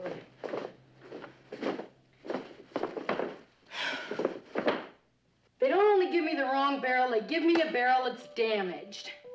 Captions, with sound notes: [sighs] They don't only give me the wrong barrel, they give me a barrel that's damaged.